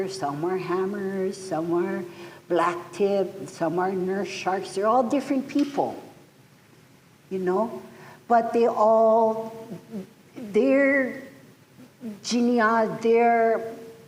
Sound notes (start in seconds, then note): none